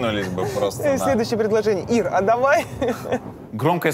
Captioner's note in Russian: смеётся